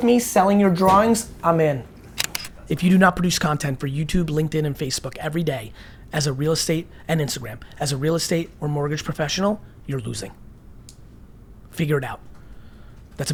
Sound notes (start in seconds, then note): 2.1 click